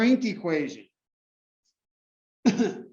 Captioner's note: cough